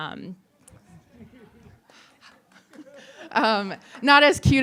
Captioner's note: audience laughing